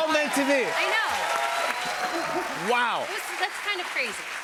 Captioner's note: cheers and applause